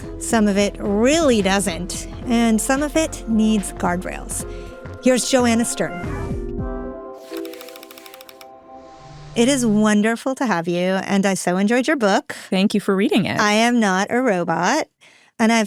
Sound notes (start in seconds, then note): 7.3 light clicking